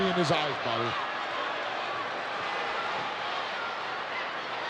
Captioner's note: crowd yelling